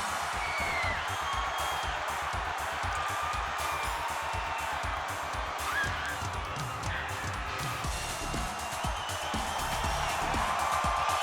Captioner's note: crowd cheering